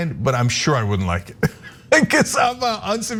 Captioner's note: laugh